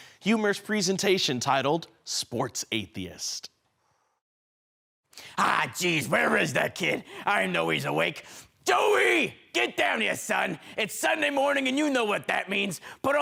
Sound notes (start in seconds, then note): 3.6 silence